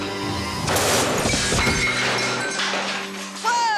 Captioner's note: electricity buzzing; light exploding